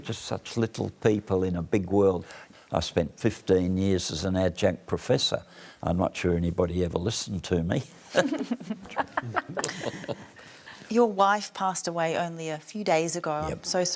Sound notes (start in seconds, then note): 8.2 laughs